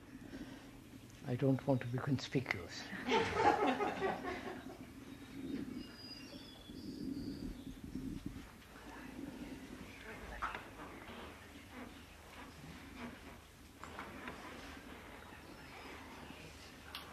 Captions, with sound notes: I don’t want to be conspicuous. (Laughter)